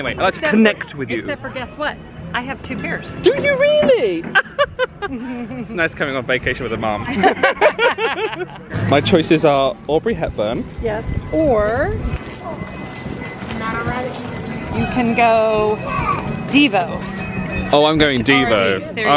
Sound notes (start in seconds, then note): 4.6 chuckles; 7.0 they laugh